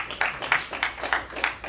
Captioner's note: applause